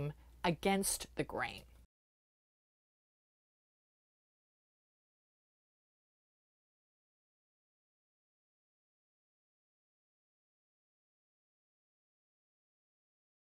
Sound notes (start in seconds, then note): 1.8 no Sound Present